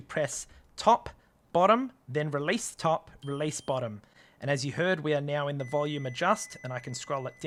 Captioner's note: beep